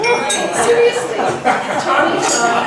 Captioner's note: laughs